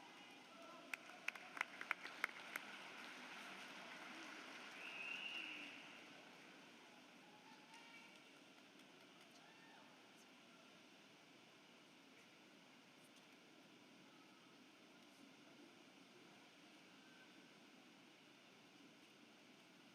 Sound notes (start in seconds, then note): 6.9 applause